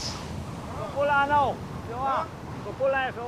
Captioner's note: Spanish spoken audio